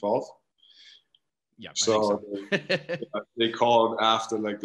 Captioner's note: laughs